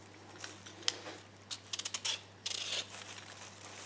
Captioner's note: peeling sound